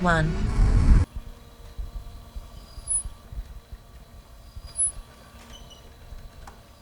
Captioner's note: faint whirring; quiet creaking